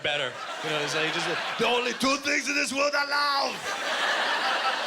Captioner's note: Imitating Schwarzenegger